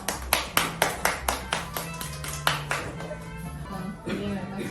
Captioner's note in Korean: 박수 !! 박수 !!